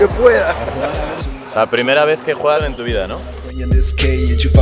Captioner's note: in spanish